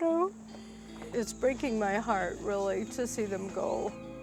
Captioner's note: choking up